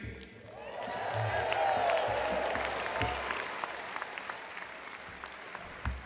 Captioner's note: attendees cheering and applauding